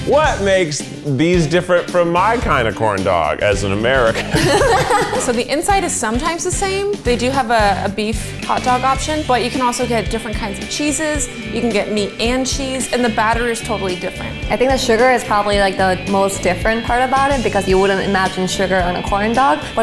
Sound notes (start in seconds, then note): 4.1 all laugh